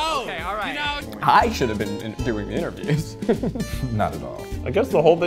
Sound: chuckles

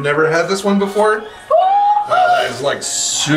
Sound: group gasping

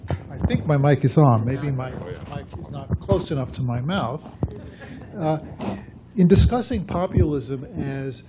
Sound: laughter

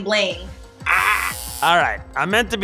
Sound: buzzer

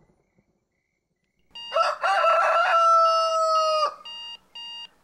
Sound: cockerel crows

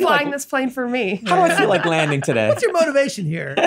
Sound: laughs

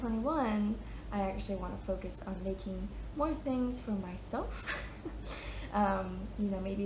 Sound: chuckles

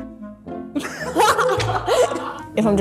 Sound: both laugh

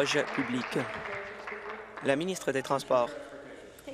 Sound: applause

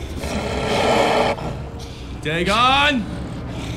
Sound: wolf growling

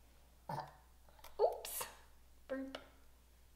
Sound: burps

